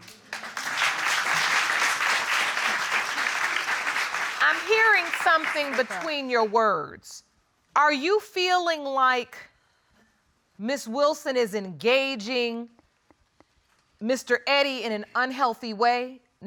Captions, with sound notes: [audience clapping] I'm hearing something between your words. Are you feeling like Ms. Wilson is engaging Mr. Eddy in an unhealthy way,